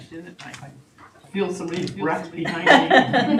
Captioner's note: chattering; laughing